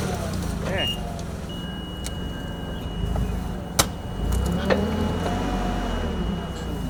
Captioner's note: fork truck motor humming